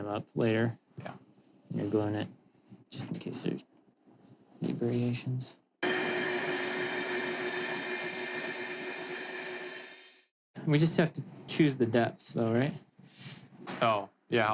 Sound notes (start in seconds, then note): 5.8 saw buzzing